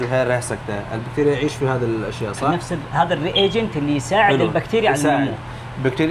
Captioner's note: Arabic